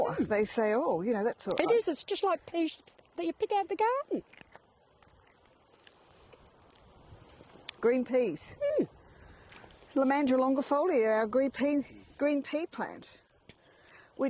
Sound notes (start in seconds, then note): 4.6 plants crunching